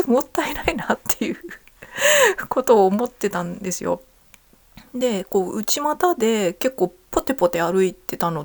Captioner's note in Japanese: 笑い